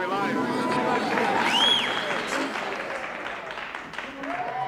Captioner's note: applause